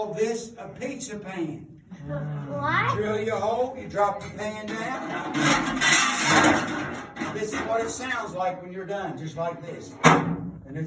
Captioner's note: clanking; thunk!